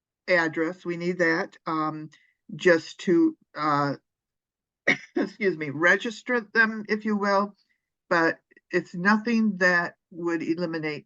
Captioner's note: coughs